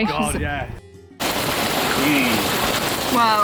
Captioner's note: noise of heavy rain on roof of van